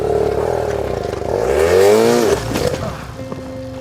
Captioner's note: motorbike engine revving